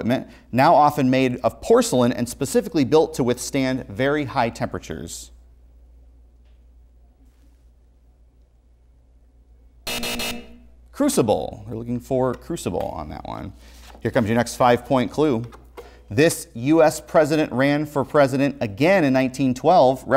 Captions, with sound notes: now often made of porcelain and specifically built to withstand very high temperatures. (buzzer) Crucible, we're looking for crucible on that one. Here comes your next five point clue. This U.S President ran for president again in 1912